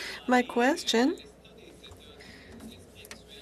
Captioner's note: speaking French